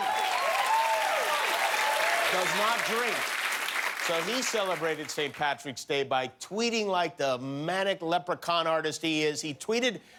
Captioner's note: cheers and applause